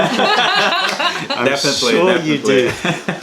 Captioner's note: laughter